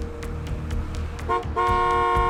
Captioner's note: honking